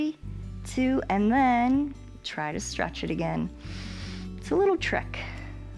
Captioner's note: inhales